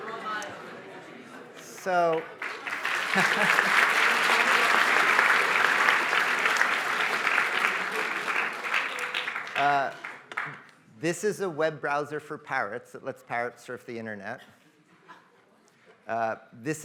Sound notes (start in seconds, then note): 1.6 applause